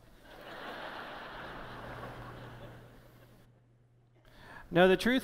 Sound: laughter

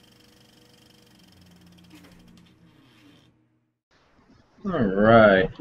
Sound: movie projector slows to a halt

